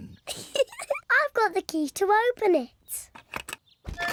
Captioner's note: giggles